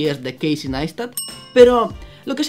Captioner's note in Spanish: ping